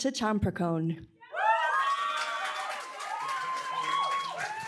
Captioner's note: applause, cheering